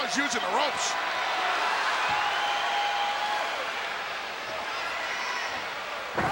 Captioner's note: crowd chattering